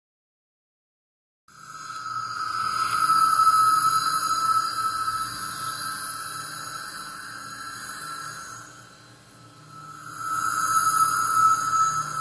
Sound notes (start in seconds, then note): 0.0 scary sound of alien presence